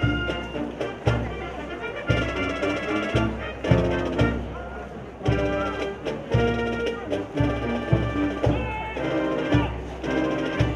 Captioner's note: shouting Army Creed